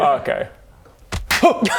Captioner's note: thud; slap!